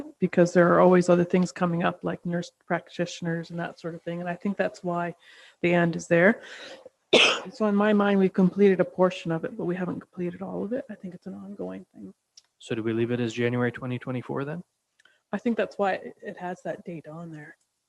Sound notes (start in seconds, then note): 7.1 coughs